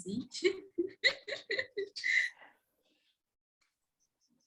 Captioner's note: laughs